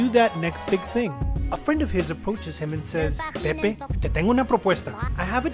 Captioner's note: Spanish